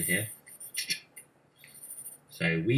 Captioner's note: clicking sound